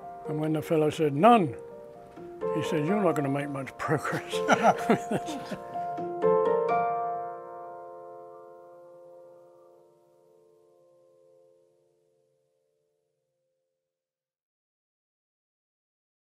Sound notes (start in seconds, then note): 4.0 laughing